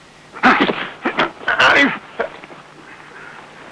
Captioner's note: crying out